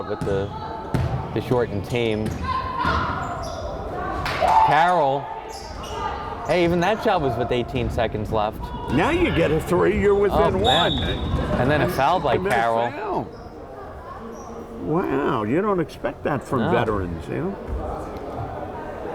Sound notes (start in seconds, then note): 10.6 whistle blowing